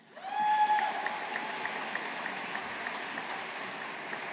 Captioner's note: audience applauding